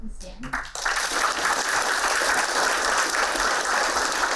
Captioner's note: applauding